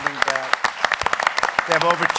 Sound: applause

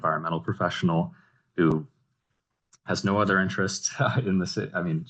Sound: chuckling

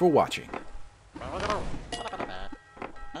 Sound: more Leprechaun noises

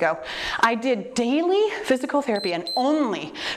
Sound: timer beeps

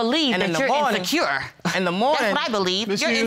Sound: scoffs

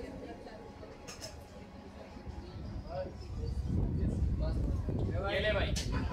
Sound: whispering

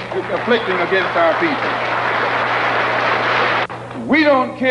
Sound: applause

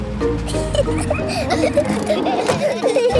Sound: children giggling

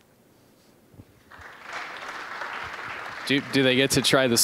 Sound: applause

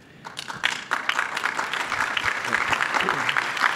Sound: clapping

